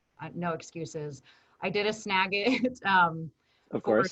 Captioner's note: chuckles